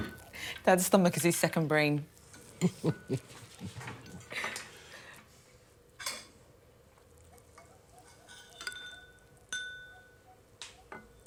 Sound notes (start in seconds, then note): 2.5 Evelyn chuckling; 6.3 spoons clinking